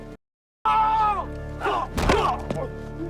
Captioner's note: blow thuds; driver grunts; drug runners yelling; blows thudding